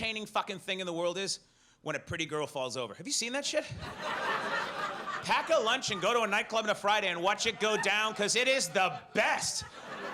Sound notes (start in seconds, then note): 3.8 audience laughs